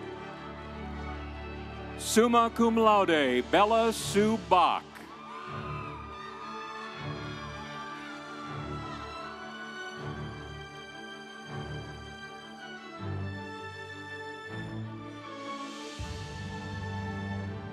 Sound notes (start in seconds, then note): 5.7 audience cheering; 5.7 instrumental music